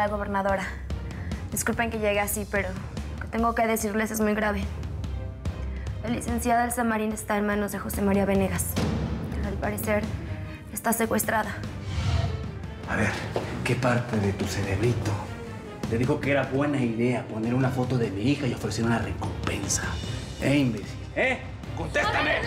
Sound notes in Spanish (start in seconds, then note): none